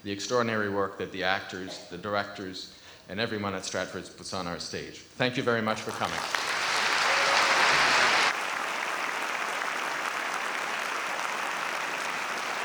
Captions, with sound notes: the extraordinary work that the actors, the directors and everyone at Stratford puts on our stage. Thank you very much for coming. (audience applauding)